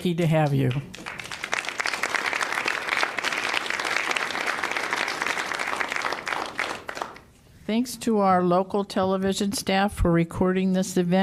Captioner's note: applause